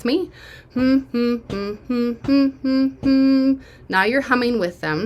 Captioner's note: humming